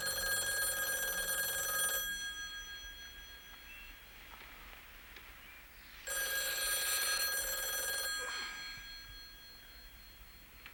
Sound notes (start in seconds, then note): 0.0 telephone rings; 6.1 ring